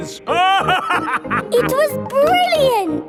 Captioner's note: laughing